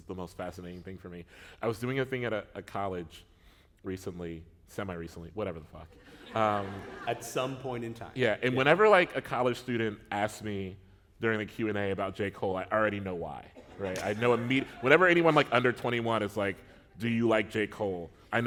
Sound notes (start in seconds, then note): 6.0 laughter